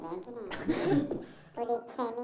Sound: laughing

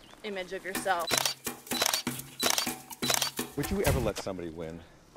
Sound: camera shuttering

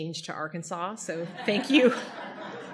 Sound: audience laughter

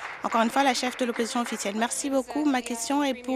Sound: applause

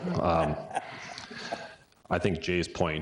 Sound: all chuckling

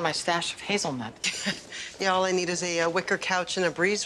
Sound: chuckles

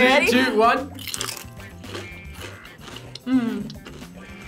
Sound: chips crunching

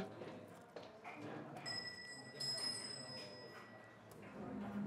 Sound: wind chime rings

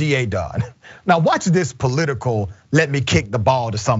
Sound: laugh

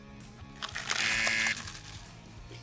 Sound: buzzer

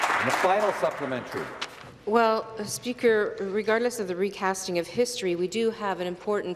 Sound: applause

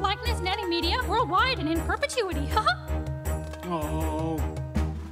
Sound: giggles

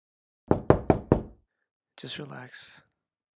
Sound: knocking

